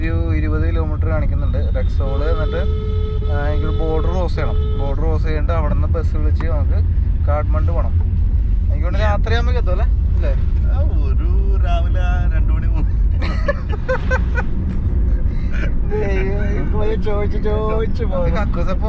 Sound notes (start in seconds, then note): 16.8 laughs